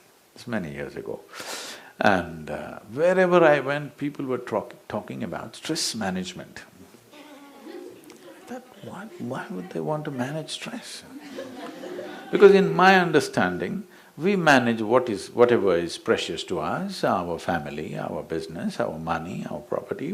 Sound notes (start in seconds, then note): 3.6 few laugh; 11.1 laughter; 11.1 笑聲